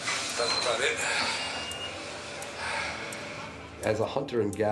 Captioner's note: sighs heavily